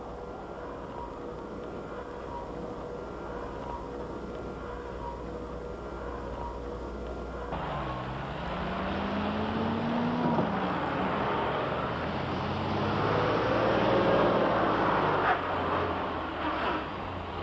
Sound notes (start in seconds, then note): 7.9 engines roar